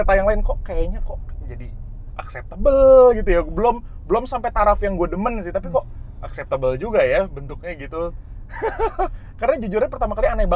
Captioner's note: laughing